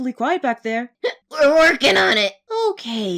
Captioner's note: hiccups